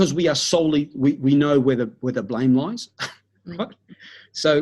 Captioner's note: chuckles